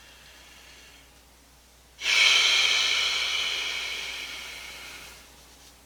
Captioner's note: I sigh in discouragement